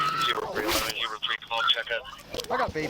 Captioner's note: radio chatter